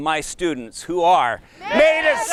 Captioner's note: shouting Together